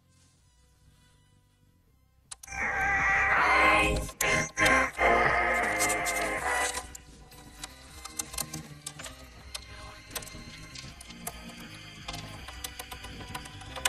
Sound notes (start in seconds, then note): 4.9 grunting